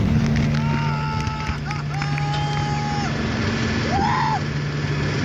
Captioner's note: explosion; cries of joy